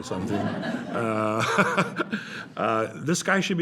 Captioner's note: laughter